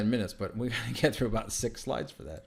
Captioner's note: laughter